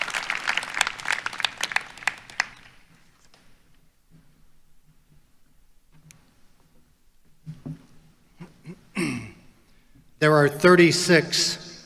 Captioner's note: applause